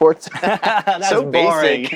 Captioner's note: laughs